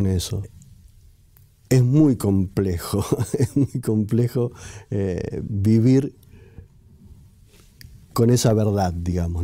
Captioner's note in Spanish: risas